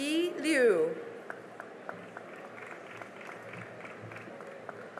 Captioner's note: cheering and applause